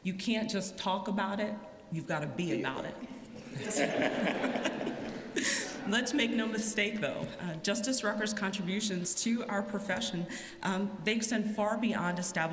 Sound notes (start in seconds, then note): 6.7 laughter